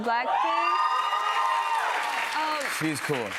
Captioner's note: cheers and applause